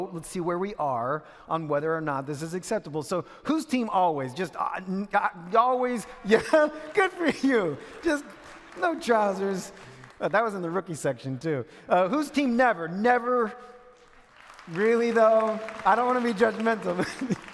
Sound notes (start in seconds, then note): 6.2 minuscule clapping in audience; 13.9 more clapping in audience